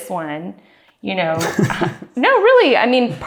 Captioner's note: laughing